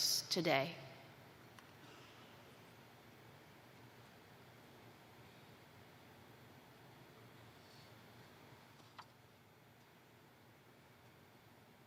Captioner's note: silence